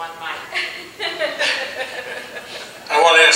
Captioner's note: laughing